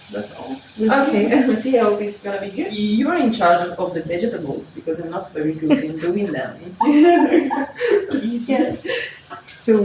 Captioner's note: laughts